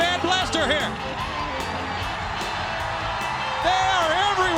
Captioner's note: crowd cheering